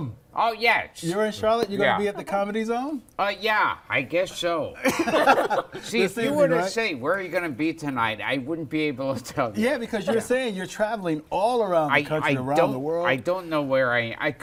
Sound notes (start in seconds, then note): 4.8 laughter